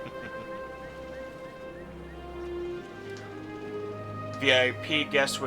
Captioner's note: chuckles